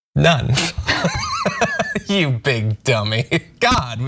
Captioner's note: laugh